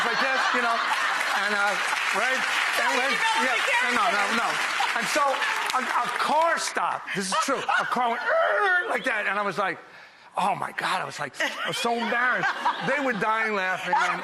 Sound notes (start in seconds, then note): 0.0 audience claps; 8.3 vocalizes